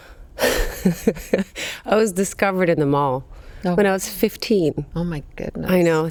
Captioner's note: laughs